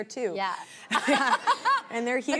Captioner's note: laughs